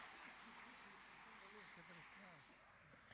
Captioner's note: applause